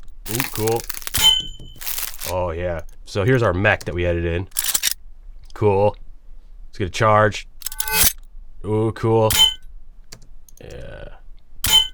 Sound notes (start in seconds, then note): 4.5 weapon cocking; 7.6 weapon charging